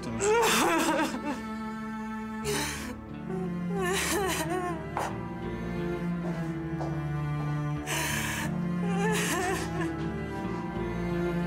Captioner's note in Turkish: Ağlıyor